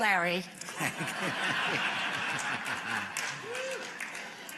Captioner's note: laughter